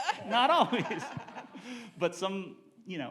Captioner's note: laughing